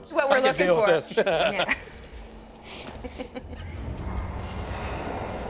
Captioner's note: laughter; suspenseful music